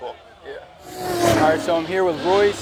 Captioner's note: car revs